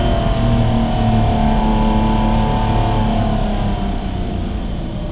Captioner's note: car revving continues